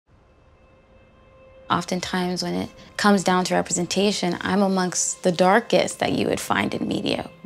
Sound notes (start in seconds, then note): 1.6 a woman speaking